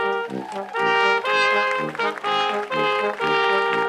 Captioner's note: crowd applauds